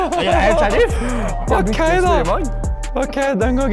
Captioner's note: female voice